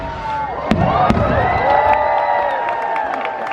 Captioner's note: crowd cheering